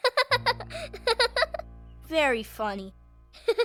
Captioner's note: laughing